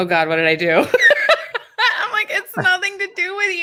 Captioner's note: laughing